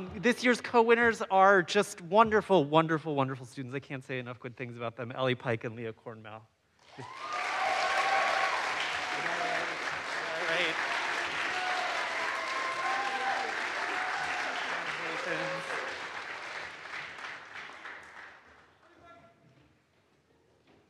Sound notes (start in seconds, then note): 7.0 audience applauds; 7.0 audience cheers